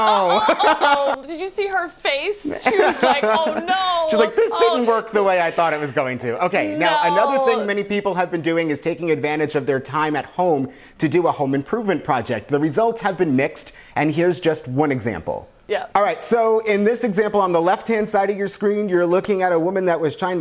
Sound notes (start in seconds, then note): 0.0 laughs; 2.5 laughs